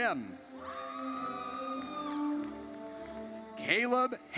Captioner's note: audience cheers